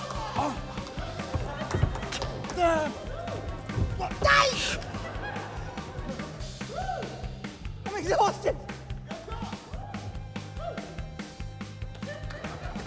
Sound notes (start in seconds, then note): 4.4 laughter; 7.8 whooping